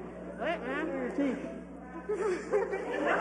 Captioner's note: mumbling; laughing